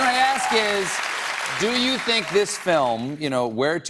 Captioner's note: cheers and applause